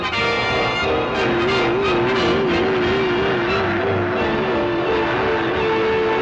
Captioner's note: machine whirring; lasers whirring